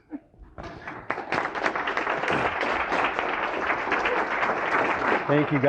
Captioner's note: applause